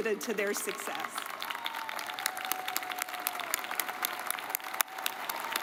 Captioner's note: audience cheers and applauds; claps